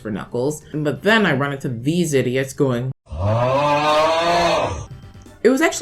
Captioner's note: auughhh sfx